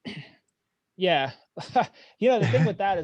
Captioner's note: laughing